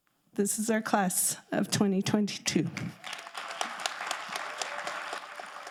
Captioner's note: audience applauding